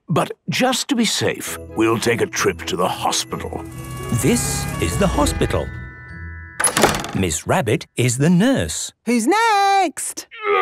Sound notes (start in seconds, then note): 4.3 siren sounding